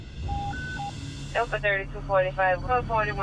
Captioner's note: radio beeps